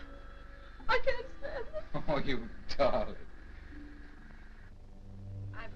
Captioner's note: chuckling